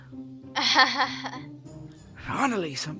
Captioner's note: awkward laugh